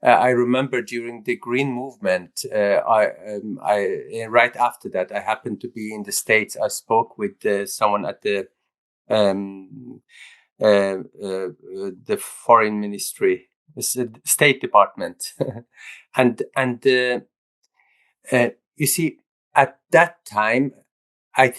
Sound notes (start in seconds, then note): 15.3 laughs